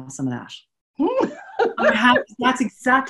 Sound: laughs

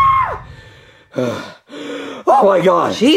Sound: Mario screaming; Mario panting

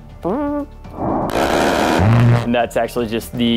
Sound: Warthog firing

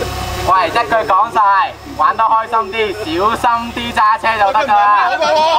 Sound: speaking in foreign language

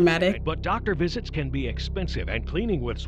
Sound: voice-over

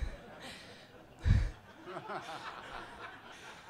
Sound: all laughing

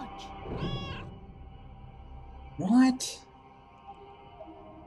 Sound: Hodge meows

